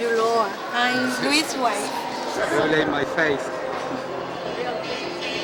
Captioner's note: laughs